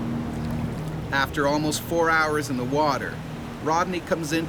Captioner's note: voiceover